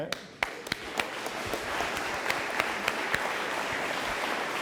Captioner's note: audience applauding